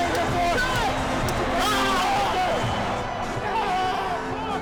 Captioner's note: yelling